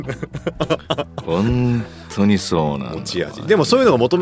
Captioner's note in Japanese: 笑い